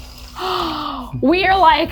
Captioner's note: gasping